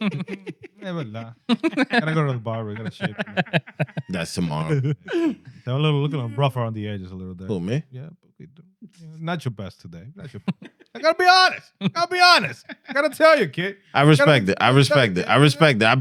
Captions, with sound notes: (Laughing) Never lie. Gotta go to the bar, we gotta shake it. That's tomorrow. They're a little, looking at a buffer on the edges a little bit. A little me? Yeah, boogie do. It's not your best today. I gotta be honest, I gotta be honest. Gotta tell you, kid. I respect it, I respect it, I respect it.